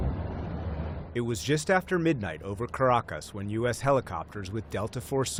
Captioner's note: voice-over